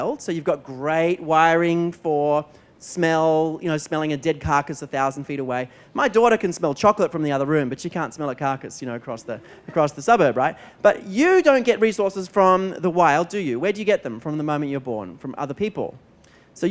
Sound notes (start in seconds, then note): 9.3 laughter